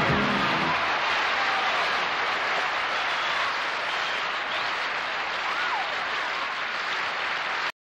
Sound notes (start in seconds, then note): 0.0 crowd cheering; 0.0 crowd clapping